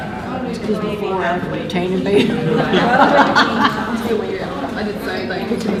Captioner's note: laughing